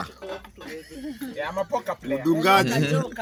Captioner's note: some giggles